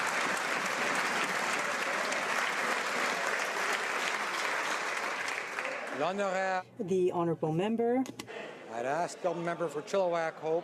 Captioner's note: some Applause